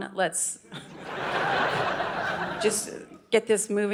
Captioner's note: audience laughing